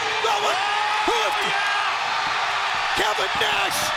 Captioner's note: crowd cheering